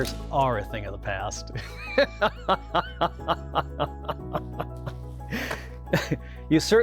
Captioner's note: laughs